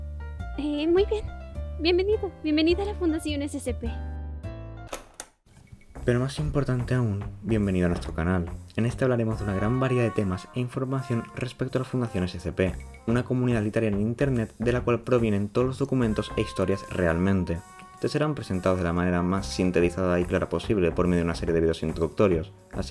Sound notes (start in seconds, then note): 4.9 click